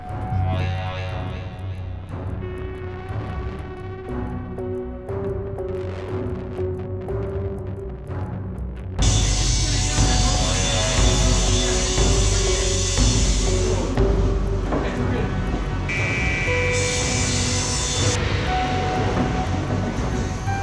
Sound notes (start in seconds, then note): 0.1 ominous tempo music; 9.1 saw buzzing; 15.8 saw buzzing